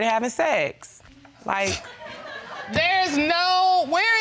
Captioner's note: faint laughter